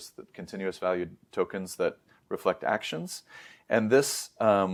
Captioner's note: inhales